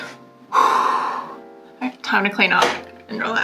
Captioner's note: sigh